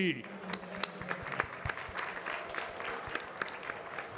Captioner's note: audience clapping